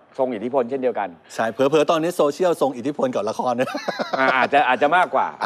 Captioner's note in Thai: หัวเราะ